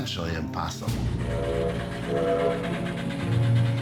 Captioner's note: whistle blows